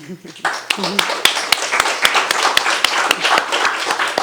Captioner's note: attendees applauding